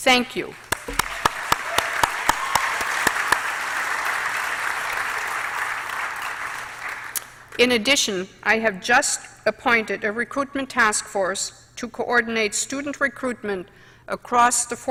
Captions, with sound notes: THANK YOU. [APPLAUSE]. IN ADDITION, I HAVE JUST APPOINTED A RECRUITMENT TASK FORCE TO COORDINATE STUDENT RECRUITMENT ACROSS THE FOUR